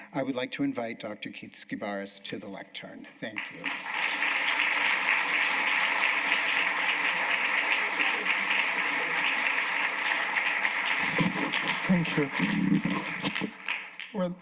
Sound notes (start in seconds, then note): 4.6 applause